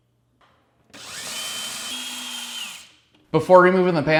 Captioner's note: screwdriver spinning